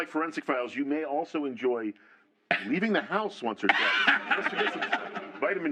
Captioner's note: laughter